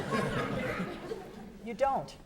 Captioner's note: audience laughing